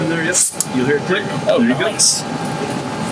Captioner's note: air hisses